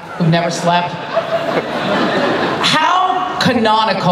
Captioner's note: laughter